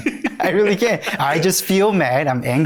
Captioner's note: laughing